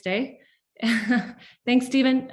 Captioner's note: chuckling